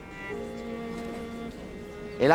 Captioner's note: crowd murmurs